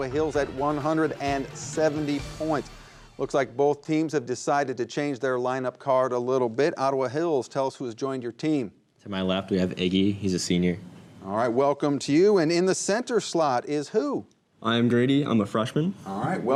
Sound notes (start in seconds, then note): none